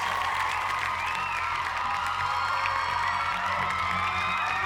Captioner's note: cheers and applause